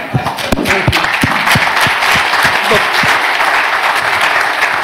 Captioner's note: applause